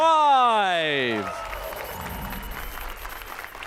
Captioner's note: applause and cheers